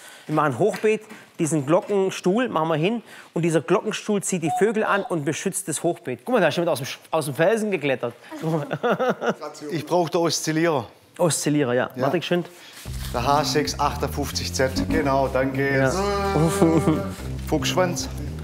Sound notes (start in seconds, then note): 16.0 Sie lachen